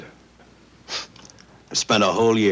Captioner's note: scoffs